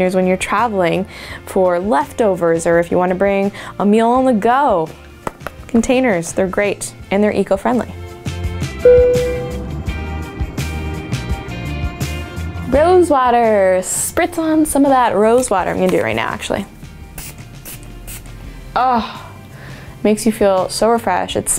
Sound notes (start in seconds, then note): 8.8 dinging; 8.8 upbeat music; 17.2 spritzing